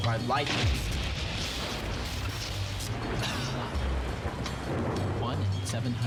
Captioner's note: lightning